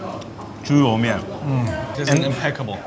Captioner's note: man speaking foreign language